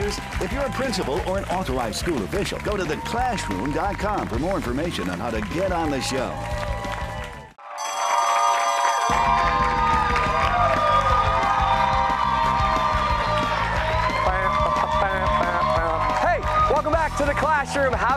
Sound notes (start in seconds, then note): 8.7 cheers and applause